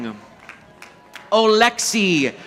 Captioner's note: audience applauding